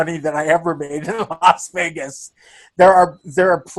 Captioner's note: laughing